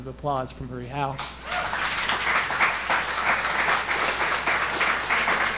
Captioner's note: audience applauding